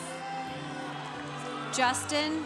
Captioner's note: congregation cheering